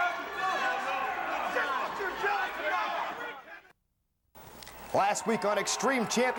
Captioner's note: crowd chatter